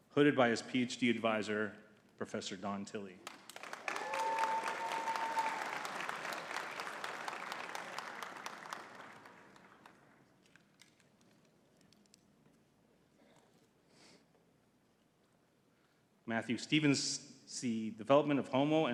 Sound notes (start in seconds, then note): 3.2 audience cheering and clapping